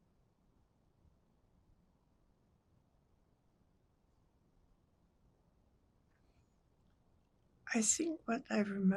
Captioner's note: pauses 8 seconds